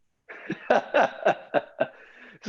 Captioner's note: laughs